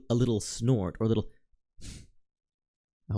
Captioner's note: breath